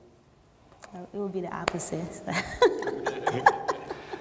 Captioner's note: laughs